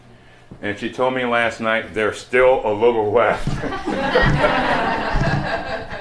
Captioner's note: laughter